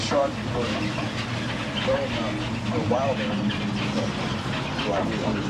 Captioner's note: recording chattering